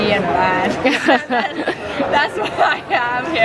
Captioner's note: laughing